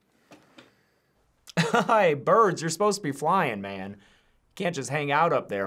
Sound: laughs

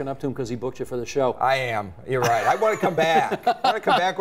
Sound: both laugh

